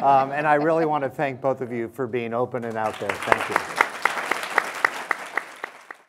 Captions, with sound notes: And I really want to thank both of you for being open and out there, thank you. (audience applause)